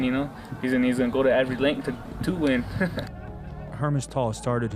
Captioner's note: chuckling